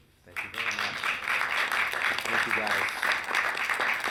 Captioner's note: audience clapping